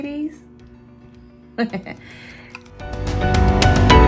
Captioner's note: chuckling; upbeat music